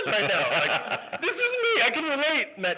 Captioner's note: laughter